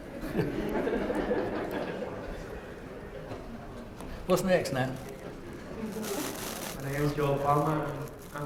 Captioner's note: laugh